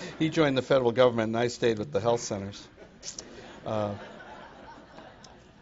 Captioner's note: laughter